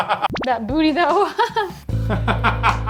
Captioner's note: laughing